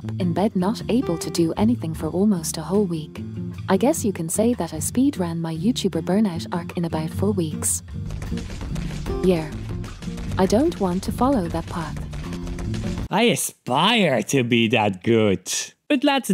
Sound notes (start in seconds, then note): 8.1 immense shaking